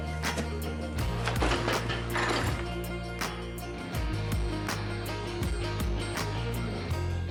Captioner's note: metal clanging